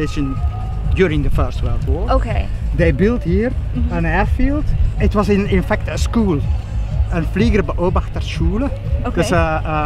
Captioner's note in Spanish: habla holandés